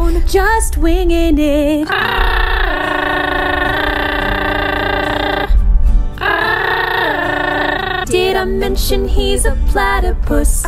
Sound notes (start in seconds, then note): 1.8 platypus chatter